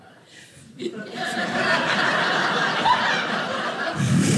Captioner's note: audience laughing